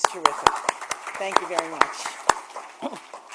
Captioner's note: applause